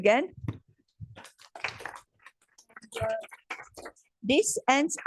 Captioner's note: applause